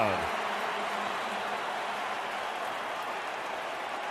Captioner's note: crowd cheering